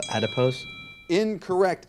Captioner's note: bell ringing